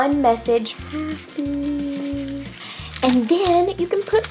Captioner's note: humming